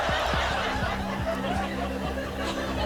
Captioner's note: Greg chuckling; audience laughing